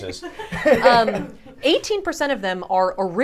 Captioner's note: chuckle